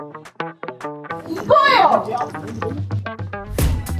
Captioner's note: Director's shout of satisfaction